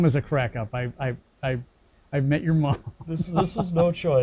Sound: laughs

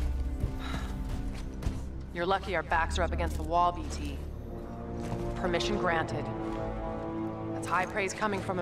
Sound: sigh

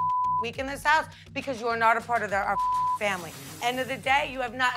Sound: beep

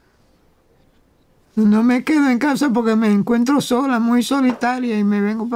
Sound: Spanish

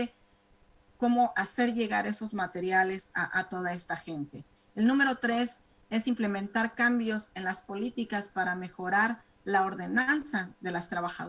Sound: speaking spanish

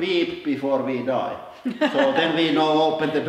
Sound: laughs

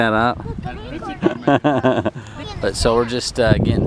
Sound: laughing

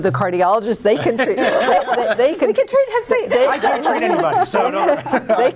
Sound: laughing

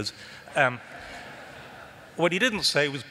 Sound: laughter

